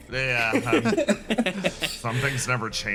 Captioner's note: laughs